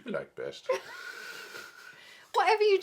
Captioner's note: both chuckling